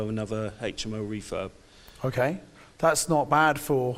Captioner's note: none